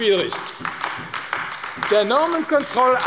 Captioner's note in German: Beifall AfD